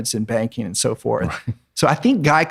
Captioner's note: laughs